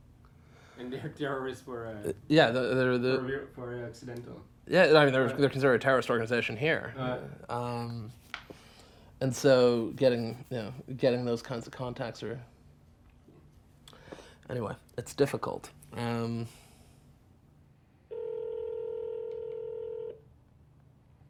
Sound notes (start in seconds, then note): 18.1 line ringing